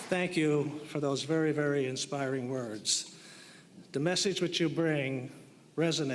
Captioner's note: applause